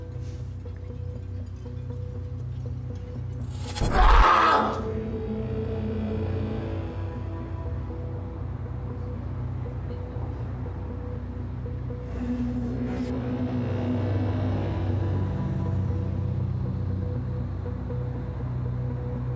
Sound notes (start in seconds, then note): 3.5 Sonny screaming; 10.8 suspenseful music